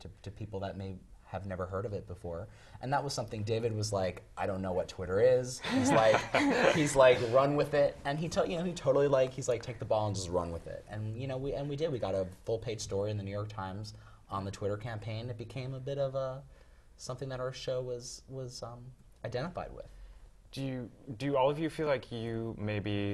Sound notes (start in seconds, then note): 5.6 laugh